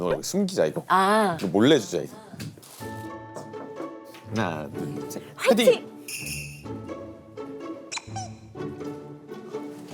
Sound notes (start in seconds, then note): 3.3 knock knock knock